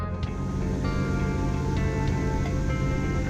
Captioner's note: engine hums